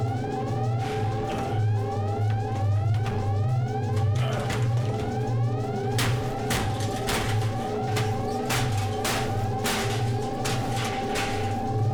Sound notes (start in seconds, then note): 0.5 Joe grunts; 5.4 grate rattles